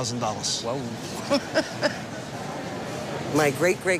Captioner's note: chuckles